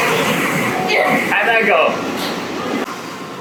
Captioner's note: kids laughing and throwing ball